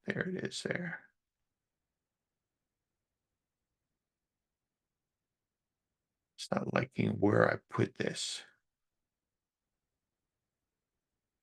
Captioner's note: silence